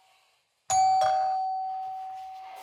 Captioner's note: doorbell rings again